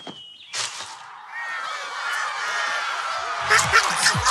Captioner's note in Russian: Радостные крики существ